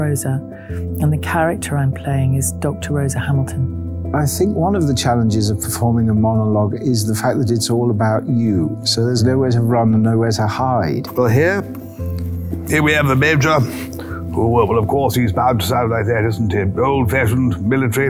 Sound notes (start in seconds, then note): 13.9 in an RP accent